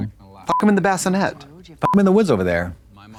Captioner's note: beep; beep